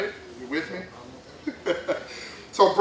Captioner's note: laughs